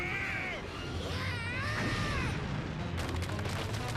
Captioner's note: all screaming